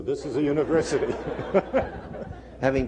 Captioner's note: laughter